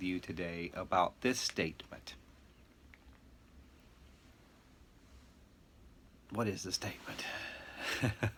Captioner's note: chuckling